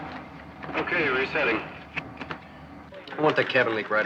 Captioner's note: man On Radio